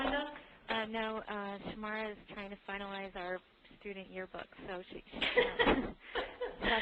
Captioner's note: laughter